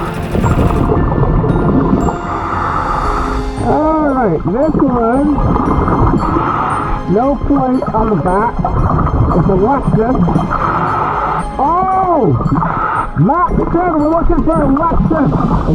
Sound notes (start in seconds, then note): 0.3 oxygen bubbling in water; 5.6 oxygen bubbling in water